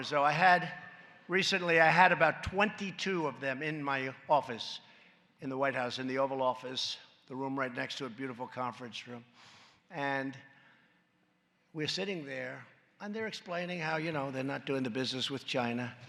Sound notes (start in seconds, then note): none